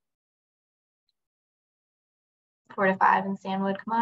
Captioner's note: silence